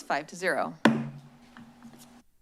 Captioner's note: gavel tap